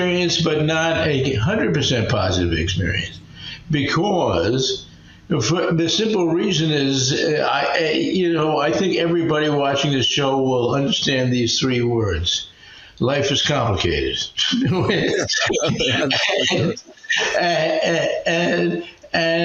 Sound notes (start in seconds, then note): 14.4 laughing